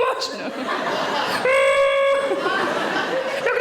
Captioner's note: audience laughing